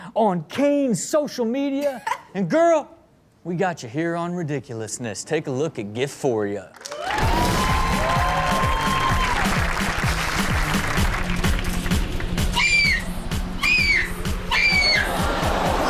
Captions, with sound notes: on Kane's social media and girl, we got you here on ridiculousness. Take a look, a gift for you. (audience cheers and claps) - Yes! Yes! Yes!